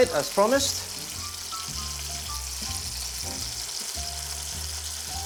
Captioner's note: sizzling sound